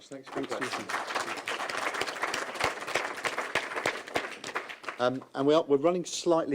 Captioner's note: audience applause